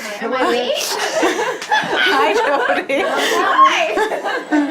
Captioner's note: everyone talking